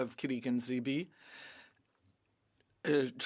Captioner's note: speaking French